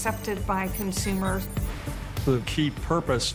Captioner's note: computer AI sounds